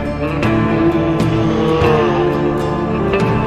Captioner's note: walrus groaning